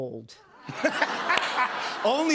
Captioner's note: laughter